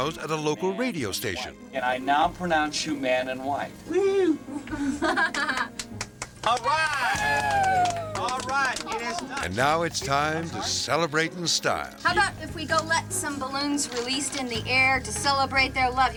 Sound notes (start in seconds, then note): 3.9 helper laughs; 7.5 all clapping